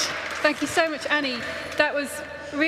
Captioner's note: applause